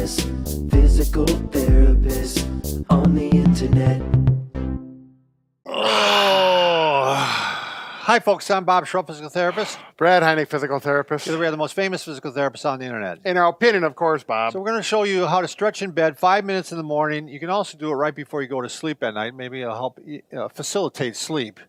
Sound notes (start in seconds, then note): 5.7 exhaling